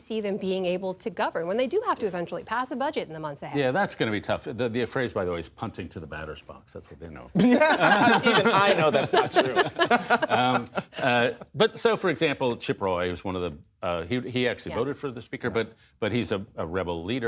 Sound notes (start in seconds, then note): 7.4 laughter